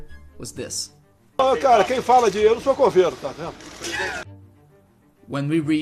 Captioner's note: speaking portuguese